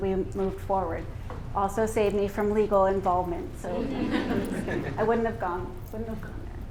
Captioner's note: laughter